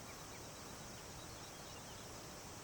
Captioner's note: birds chirping